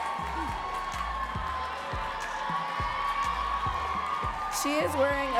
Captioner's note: audience cheering